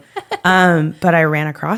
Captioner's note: laughs